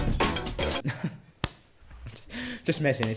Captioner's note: chuckles